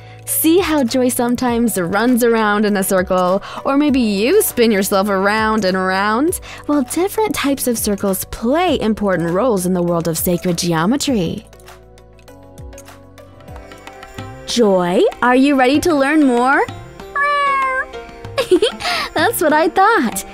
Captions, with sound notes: See how Joy sometimes runs around in a circle, or maybe you spin yourself around and around. Well, different types of circles play important roles in the world of sacred geometry. Joy, are you ready to learn more? (meowing) (giggles) That's what I thought.